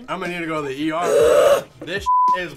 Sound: growls

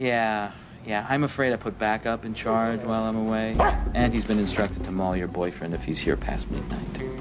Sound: barks

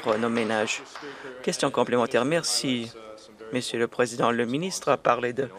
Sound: some Applause

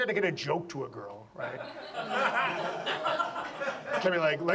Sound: audience laughs

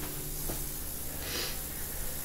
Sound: shop ambient sound

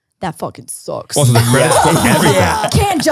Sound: everyone laughs

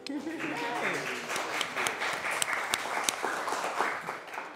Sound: crowd applauding

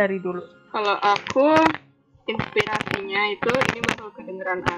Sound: shaking mic; mic noise

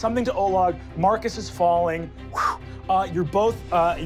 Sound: wooshing

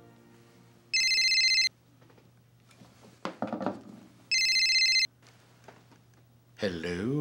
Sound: phone rings

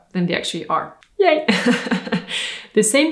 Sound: laughs

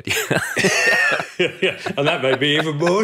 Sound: group laughing

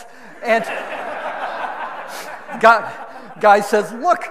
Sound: audience laughing

